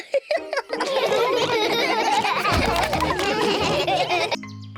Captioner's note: giggles; all laugh